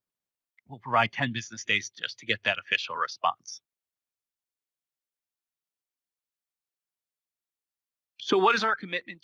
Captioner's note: pause